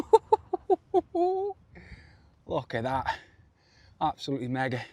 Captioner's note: giggles